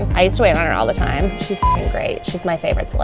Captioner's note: beeps